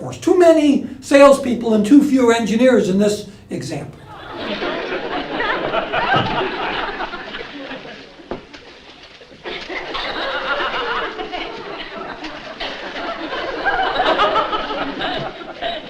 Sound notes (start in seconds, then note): 4.0 laugh